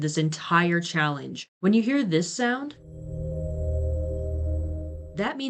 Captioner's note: traumatic exit room sound